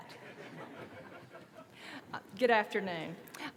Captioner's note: laughter